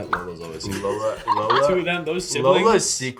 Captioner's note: Lola laughs